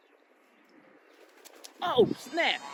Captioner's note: wings flapping sound